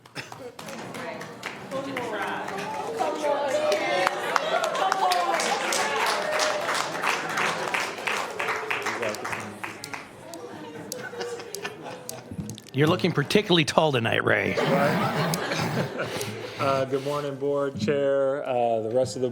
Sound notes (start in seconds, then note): 1.8 applause; 3.6 applause; 8.2 applause; 10.9 applause